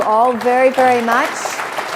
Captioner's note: applause